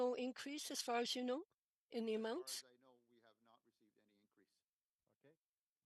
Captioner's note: speaking French